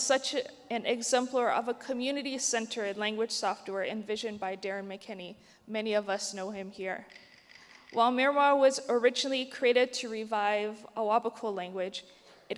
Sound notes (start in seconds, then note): 7.0 clap sticks rattle